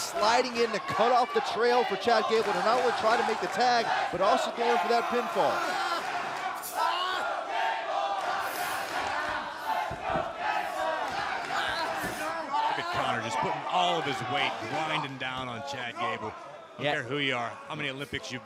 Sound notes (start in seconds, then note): 8.4 fans chanting